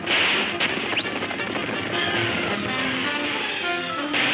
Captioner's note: man whistles; guns firing